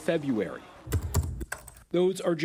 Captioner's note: mouse clicking